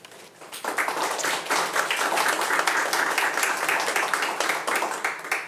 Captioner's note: attendees applauding